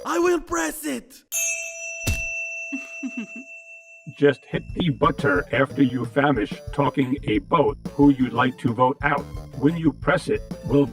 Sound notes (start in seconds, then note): 1.3 chime; 2.8 candle giggles